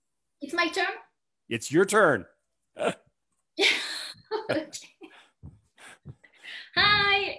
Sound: chuckles

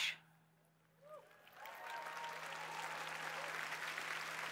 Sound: applause

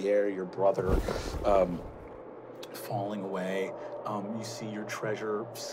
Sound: wooshing

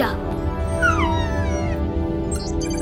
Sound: whining

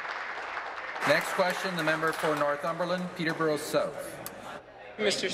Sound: applause

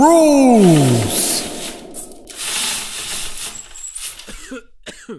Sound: curtain opens slowly; audience cough

